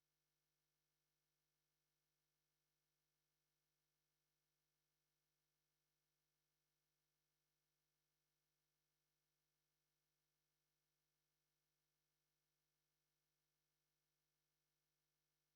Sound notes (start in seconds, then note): none